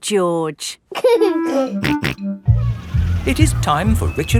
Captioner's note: giggling and snorting